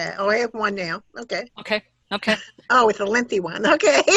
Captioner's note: laughter